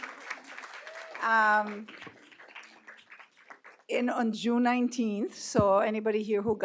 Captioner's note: applause